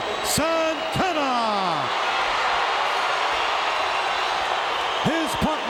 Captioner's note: audience cheering